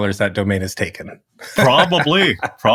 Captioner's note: laugh